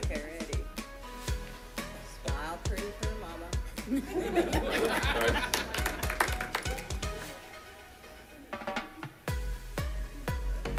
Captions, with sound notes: Okay, ready, smile pretty for mama. (audience laughing) (upbeat music)